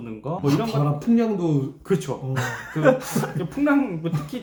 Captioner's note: laughing